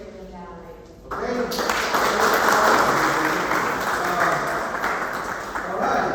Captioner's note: applause